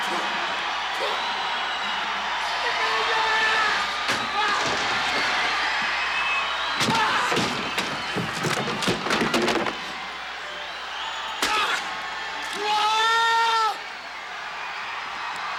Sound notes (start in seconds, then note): 0.2 Roddy spitting; 3.5 Roddy shouting; 12.6 Roddy yells